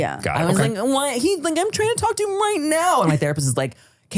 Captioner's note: whining